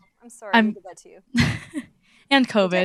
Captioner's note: laughter